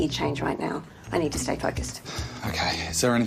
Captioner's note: sighs